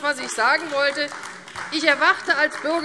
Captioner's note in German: Beifall AfD